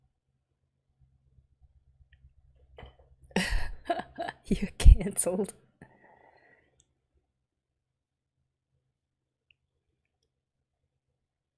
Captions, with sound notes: [laughs] You're cancelled.